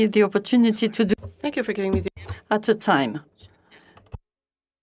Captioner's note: speaking French